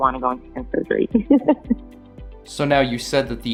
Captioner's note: she chuckles